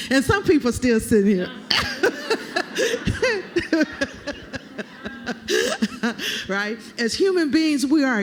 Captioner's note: laughter